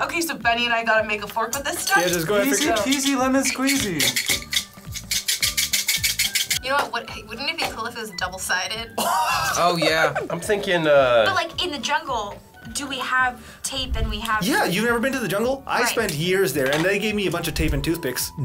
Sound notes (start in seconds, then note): 4.3 toothpicks rattling; 9.0 chuckles